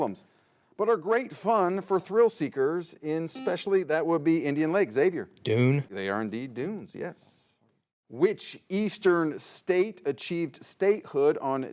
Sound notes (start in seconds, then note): 3.4 buzzer beeps